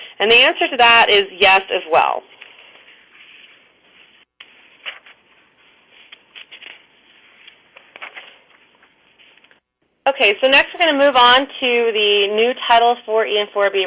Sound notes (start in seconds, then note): 2.3 pause